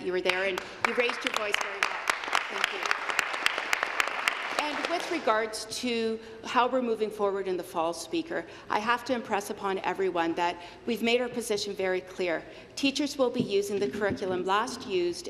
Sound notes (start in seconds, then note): 5.9 applause